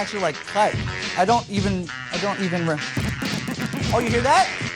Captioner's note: scratching